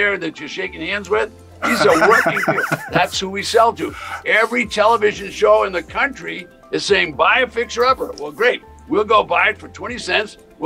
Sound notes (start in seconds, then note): 1.6 host laughing